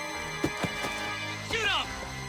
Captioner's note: man yelling; body thudding